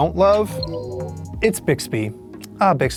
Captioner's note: phone chimes